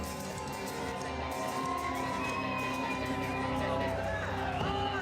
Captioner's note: crowd cheering